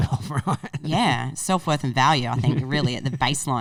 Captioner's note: laughing